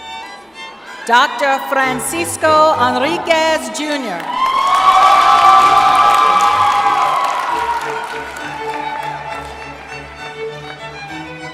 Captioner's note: cheering